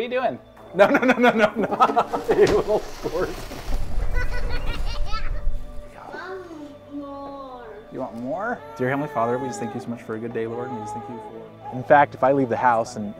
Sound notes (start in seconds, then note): 0.8 laughs; 10.8 baby cries